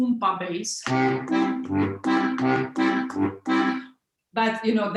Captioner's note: bellow striking